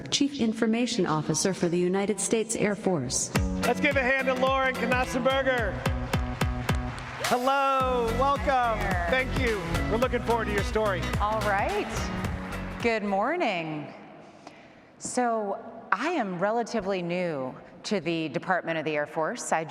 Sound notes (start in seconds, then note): 3.4 upbeat music; 6.2 audience applauds